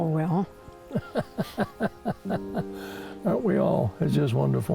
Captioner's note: chuckles